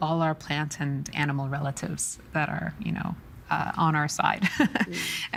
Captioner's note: laughing